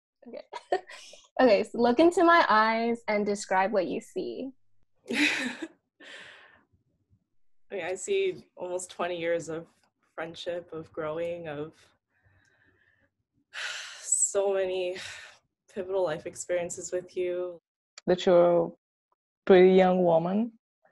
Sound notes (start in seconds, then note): 0.4 chuckling; 5.1 chuckles; 13.2 sighs